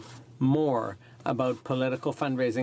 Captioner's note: speaking in french